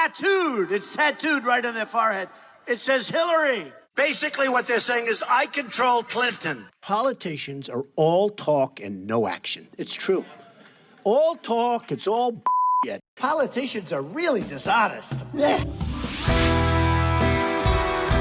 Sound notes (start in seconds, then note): 12.5 beeping; 15.2 rock music